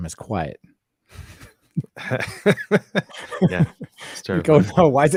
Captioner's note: laughing